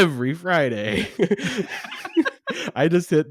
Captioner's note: both laughing